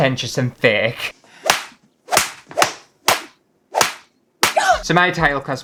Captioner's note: slapping